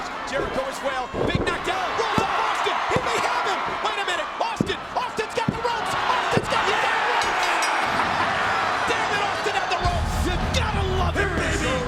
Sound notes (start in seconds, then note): 2.8 audience cheers; 6.9 audience cheers; 7.2 bell rings